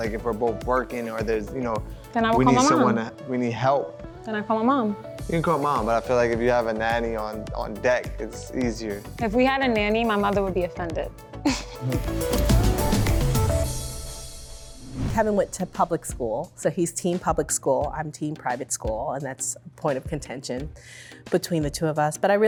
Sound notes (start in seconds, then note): 11.5 laughs; 12.7 cheerful music